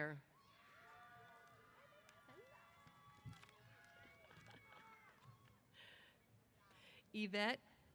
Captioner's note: cheers